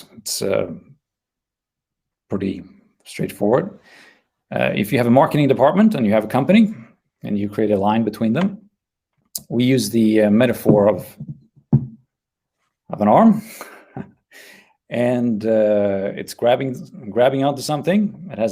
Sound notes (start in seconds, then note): 13.3 laughing